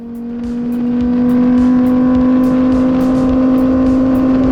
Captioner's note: engine revving